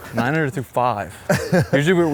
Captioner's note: laughs